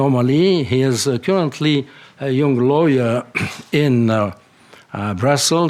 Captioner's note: clears throat